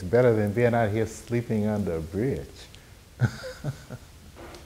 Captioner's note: laughing